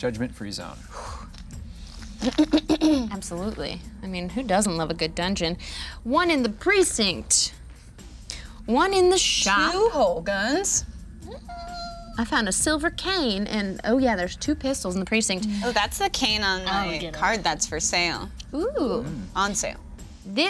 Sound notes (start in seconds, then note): 1.5 exhaling; 2.5 clearing her throat